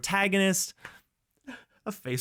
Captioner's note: laughs